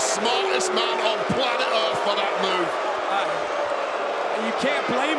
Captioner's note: crowd boo's